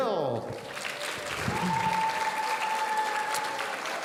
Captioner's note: audience cheering